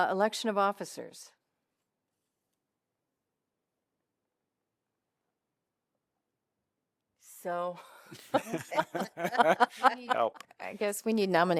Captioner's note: laughter